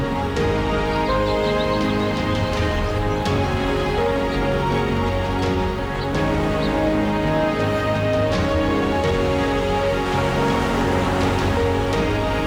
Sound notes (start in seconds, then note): 0.0 waves